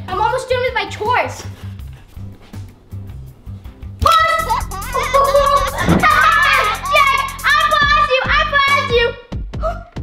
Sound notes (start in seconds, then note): 4.1 laughs